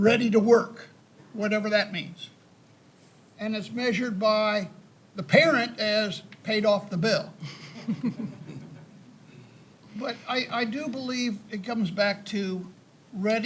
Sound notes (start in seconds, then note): 7.4 panelists chuckle